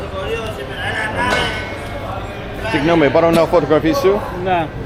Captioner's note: speaking in foreign language